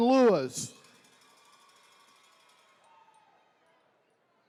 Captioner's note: attendees cheering